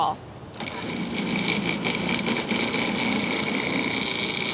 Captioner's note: food processor whirs